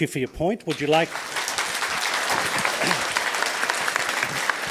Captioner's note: audience applauds